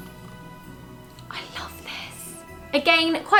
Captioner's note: whispers